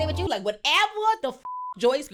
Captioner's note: beep